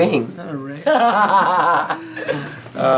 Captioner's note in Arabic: يضحك